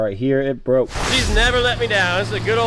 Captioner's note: swoosh